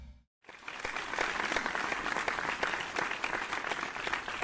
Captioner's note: audience applaud